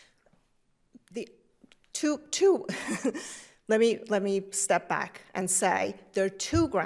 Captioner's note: laughs